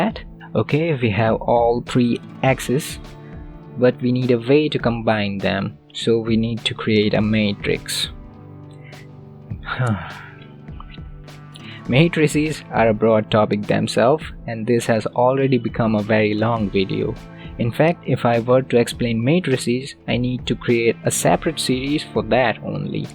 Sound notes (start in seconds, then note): 9.6 sigh